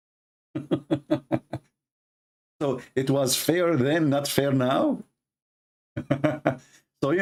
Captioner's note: Ketawa